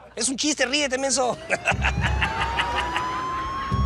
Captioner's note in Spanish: Sirena de policía; Ríe